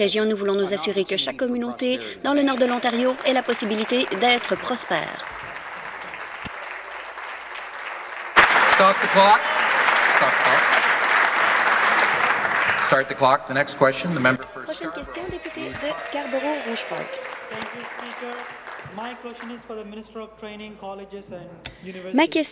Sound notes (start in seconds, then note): 6.6 applause